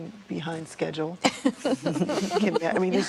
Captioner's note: laughter